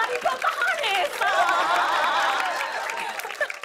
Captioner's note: laughter